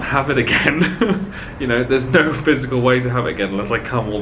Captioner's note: chuckling